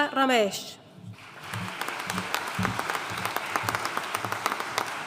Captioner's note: audience applauding